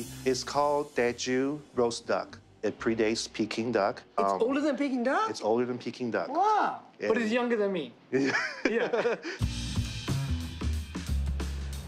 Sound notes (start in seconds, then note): 8.2 laughter